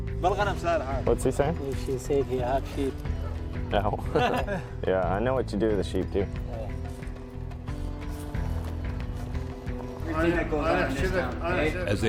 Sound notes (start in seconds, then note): 0.2 Iraqi man speaking Arabic; 4.0 Marine, laughing